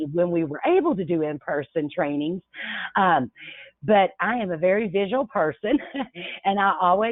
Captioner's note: chuckles